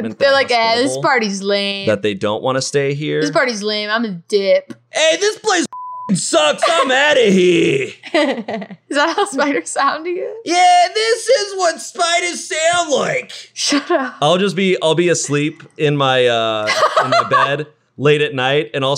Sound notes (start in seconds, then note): 5.7 beep; 8.1 laughing